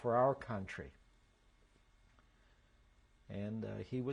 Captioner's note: pauses for 3 seconds